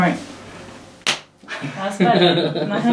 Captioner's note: hands slapping; laughs